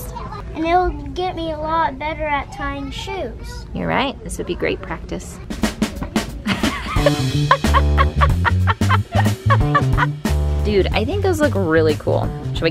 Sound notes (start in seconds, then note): 6.4 laughing